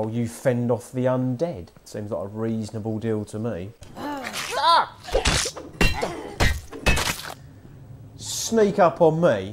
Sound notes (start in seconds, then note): 4.0 heroic scream; 4.0 does a zombie noise